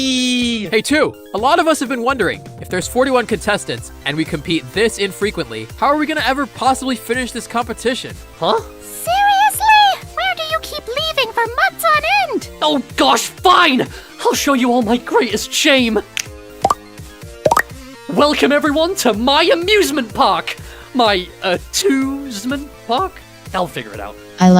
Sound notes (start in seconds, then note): 15.6 snaps fingers; 17.4 popping sounds